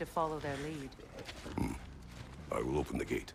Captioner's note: grunt